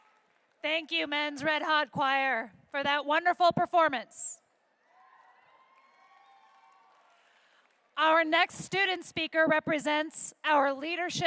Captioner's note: applause